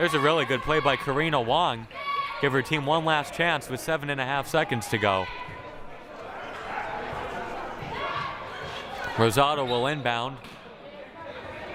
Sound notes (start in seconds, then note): 5.4 crowd murmuring